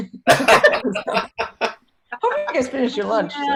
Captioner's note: laughing